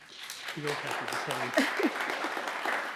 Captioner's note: audience applauds